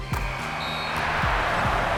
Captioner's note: crowd cheers; buzzer sounds